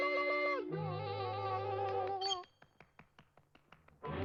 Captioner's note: clap clap clap